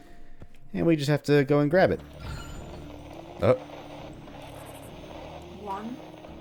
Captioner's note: radio static